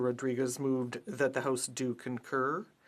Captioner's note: speaking french